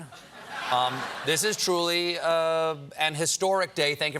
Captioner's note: laughter